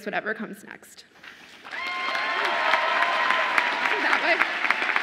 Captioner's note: audience applauding and cheering